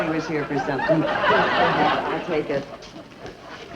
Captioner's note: audience laughs